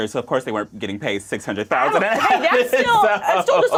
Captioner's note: laughs